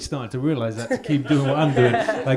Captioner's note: audience laughs